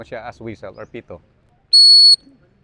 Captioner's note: whistles